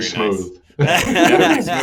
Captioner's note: laughter